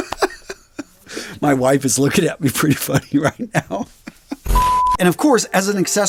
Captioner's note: laughs; laughs